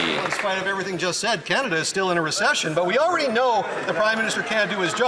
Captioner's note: some Applause